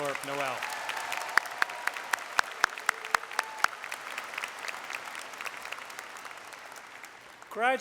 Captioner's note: applause